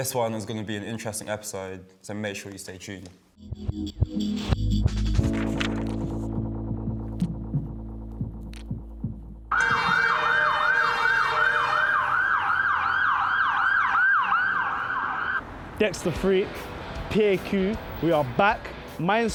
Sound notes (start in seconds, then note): 3.4 upbeat techno; 9.4 sirens